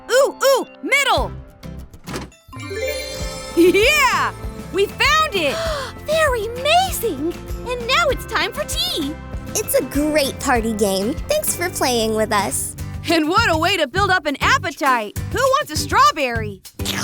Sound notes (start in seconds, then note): 2.5 magical sounds; 5.5 gasps; 16.8 eating sounds